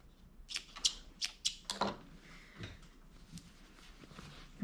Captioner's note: scissors snipping